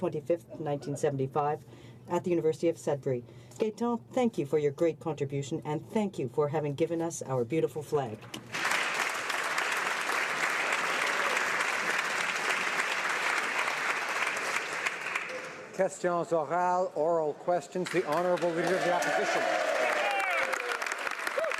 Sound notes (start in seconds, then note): 12.9 some Applause